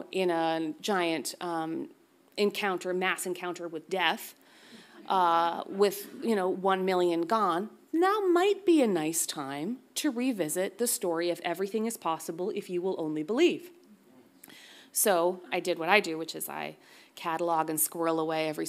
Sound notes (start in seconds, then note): none